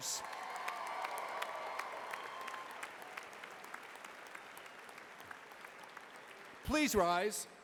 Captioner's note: cheers and applause